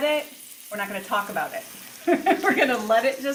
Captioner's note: laughs